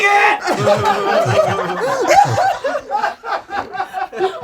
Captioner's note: group laughs